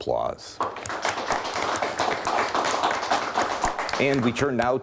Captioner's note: audience clapping